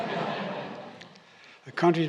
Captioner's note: laughter